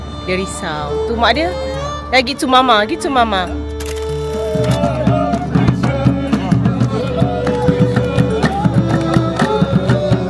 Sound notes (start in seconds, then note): 2.7 speaking German